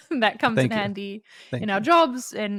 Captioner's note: both laughing